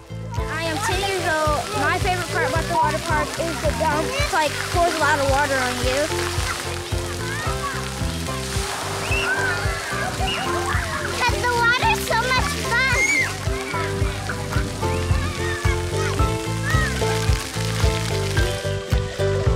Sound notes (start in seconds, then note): 8.5 water splash; 9.3 giggling and shouting